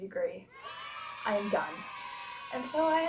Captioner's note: children cheering sound effect